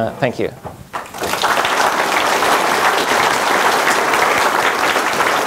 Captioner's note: audience applauding